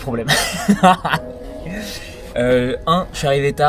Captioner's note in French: rires